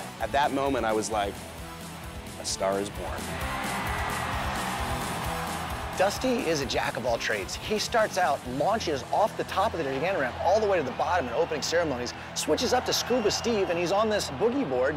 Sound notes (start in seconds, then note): 3.2 cheering